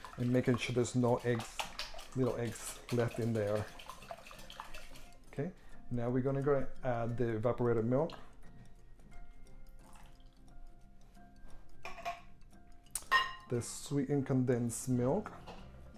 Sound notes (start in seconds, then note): 4.1 whisking eggs; 9.8 pouring milk